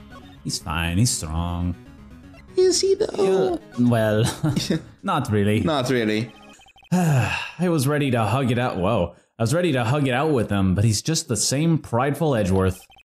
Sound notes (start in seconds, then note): 4.3 chuckle; 6.9 sigh